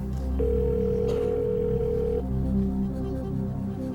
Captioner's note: phone ringing